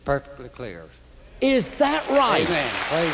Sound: applause

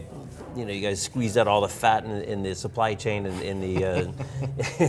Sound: laughs

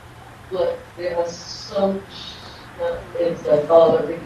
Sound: woman chattering

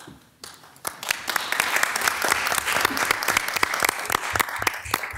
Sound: everyone clapping

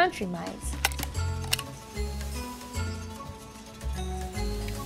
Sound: mousetrap clicking

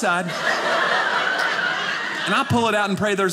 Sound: audience laughing

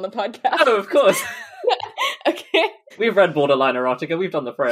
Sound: laughs

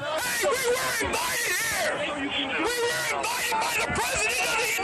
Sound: yelling

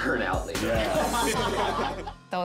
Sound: laughing

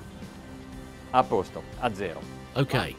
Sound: speaking in foreign language

